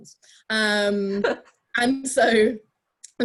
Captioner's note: laughs